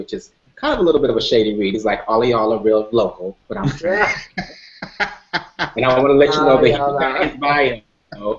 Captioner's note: laughter